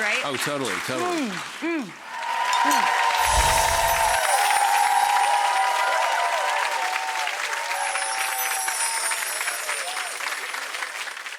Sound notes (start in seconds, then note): 3.7 audience applauding and cheering